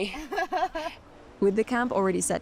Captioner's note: laughs